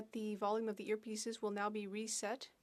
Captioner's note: speaking French